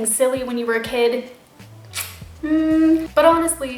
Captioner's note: noises of disbelief